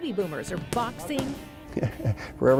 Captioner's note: laughing